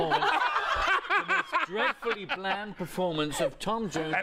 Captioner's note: laughter